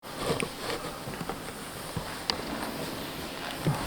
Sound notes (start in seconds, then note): 0.0 fabric rustling